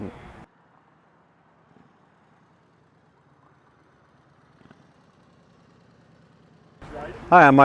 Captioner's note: traffic noise, motorcycle going